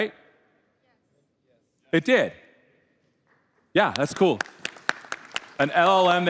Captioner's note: applause